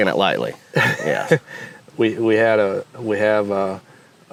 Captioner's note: laughs